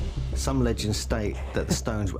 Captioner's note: laughs and snorts